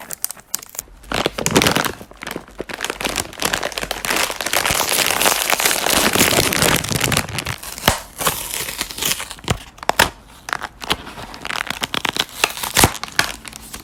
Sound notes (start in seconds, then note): 1.1 crinkle crinkle crinkle; 4.4 chip bag opening sound; 7.4 pop; 8.1 opening box noise